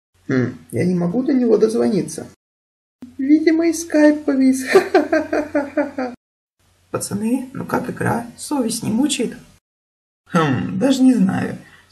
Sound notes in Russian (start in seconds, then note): 4.6 Смеётся